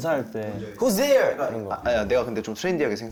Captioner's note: excited